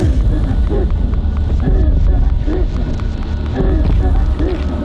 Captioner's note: chanting distorts